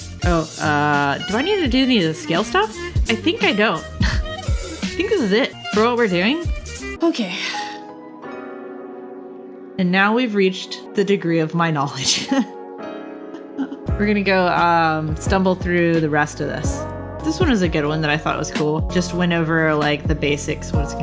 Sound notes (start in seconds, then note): 4.0 laughs; 13.3 laughs